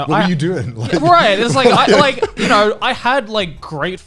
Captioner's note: guys laughing